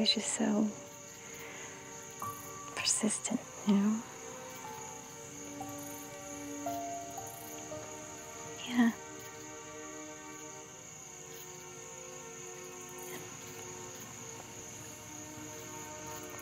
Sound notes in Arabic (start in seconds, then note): none